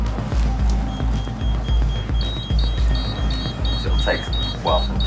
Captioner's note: devices beeping